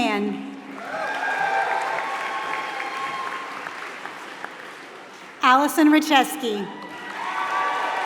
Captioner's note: applause; applause